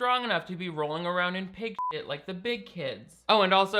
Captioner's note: beep